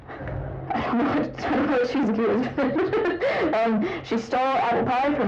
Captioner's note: laughter